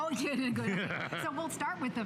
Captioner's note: laughter